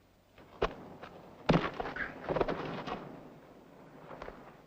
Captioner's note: loud thud